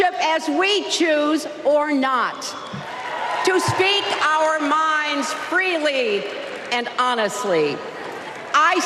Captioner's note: applause